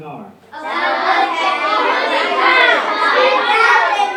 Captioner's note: children chattering